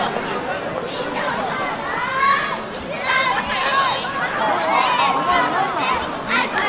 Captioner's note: people talking and chanting and clapping